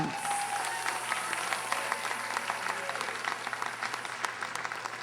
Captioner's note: audience applauding